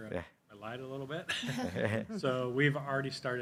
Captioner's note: everybody laughing